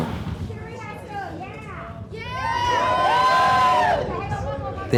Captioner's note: cheers and applause